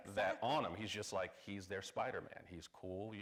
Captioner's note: none